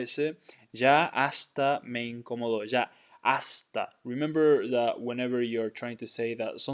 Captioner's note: speaking in Spanish